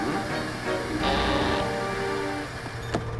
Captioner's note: rope creaking